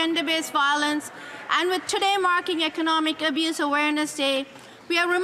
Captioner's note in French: voix de l'interprète